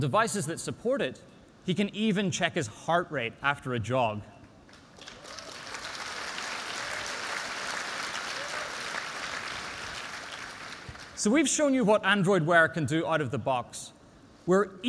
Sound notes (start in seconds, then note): 4.6 applause